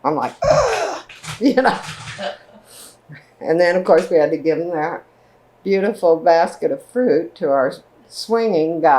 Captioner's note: gasps